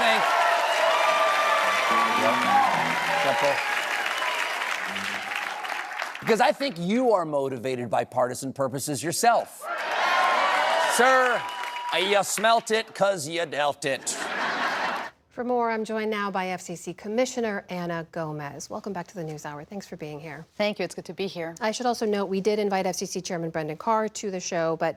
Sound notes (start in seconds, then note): 0.0 cheering; 9.6 cheering; 14.0 laughter